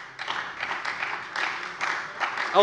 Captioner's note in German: Beifall bei der SPD